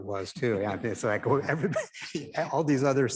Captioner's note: attendees chuckle